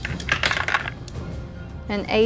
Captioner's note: dice rattling